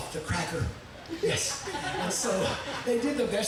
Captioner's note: audience members chuckling